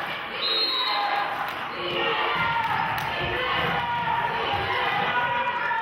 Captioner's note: clapping; whistle blows